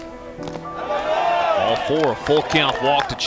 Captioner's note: cheering